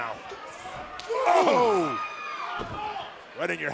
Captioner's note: crowd chatter